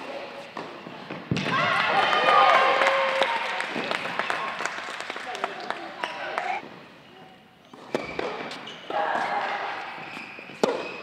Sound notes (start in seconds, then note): 1.4 crowd Cheering